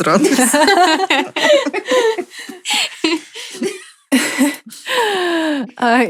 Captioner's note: laughter